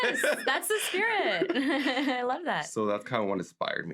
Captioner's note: laughs